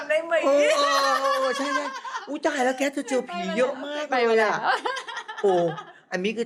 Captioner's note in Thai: เสียงหัวเราะ